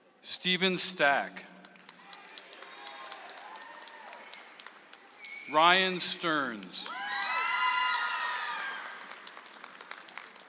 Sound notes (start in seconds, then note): 1.6 audience applauds